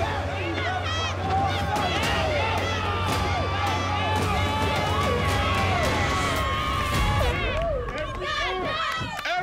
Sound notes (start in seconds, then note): 0.0 horn blast; 0.2 cheering; 1.8 intense music; 7.2 horn blast